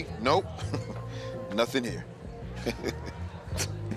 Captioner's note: chuckling